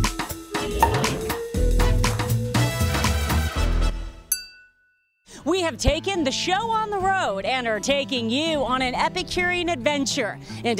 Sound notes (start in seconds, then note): 0.7 cork popping; 4.3 wine glasses clink